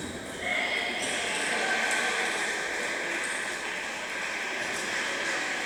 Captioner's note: applause